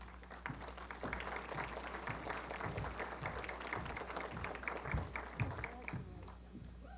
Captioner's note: applause